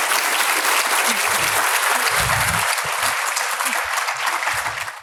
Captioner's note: audience clapping